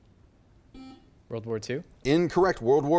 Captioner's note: buzzer chimes